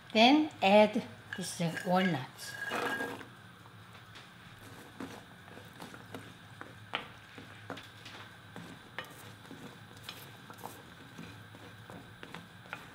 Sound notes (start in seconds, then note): 2.5 nuts thudding